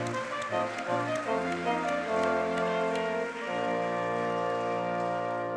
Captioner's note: audience clapping